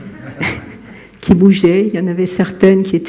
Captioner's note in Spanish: Risas